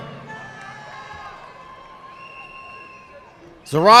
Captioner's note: audience clapping